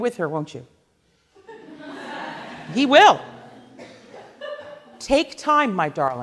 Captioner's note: laughing